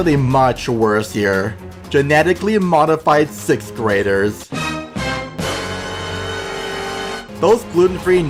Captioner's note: dramatic sound effect